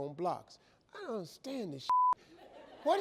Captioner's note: beep; audience laughs